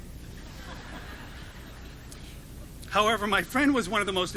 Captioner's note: audience laughing